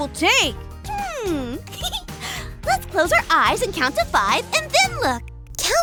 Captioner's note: laughs